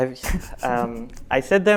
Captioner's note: laughs